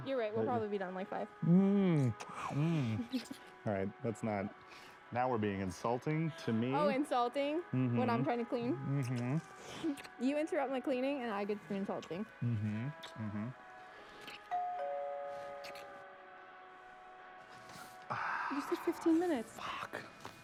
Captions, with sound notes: - YOU'RE RIGHT. WE'LL PROBABLY BE DONE IN LIKE FIVE. - ALRIGHT LET'S NOT. NOW WE'RE BEING INSULTING... TO ME. - OH INSULTING? - MHMM. - WHEN I'M TRYING TO CLEAN? - MHMM. - YOU INTERUPT MY CLEANING AND I GET TO BE INSULTING. - MHMM. MHMM. [ DOOR BELL ] - WHAT THE FU... YOU SAID FIFTEEN MINTUES. - AHH. FUCK.